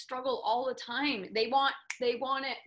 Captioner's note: snapping